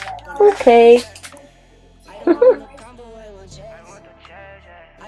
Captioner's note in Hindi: गिगल्स।